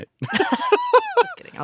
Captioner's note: laughing